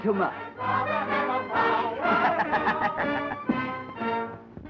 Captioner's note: laughing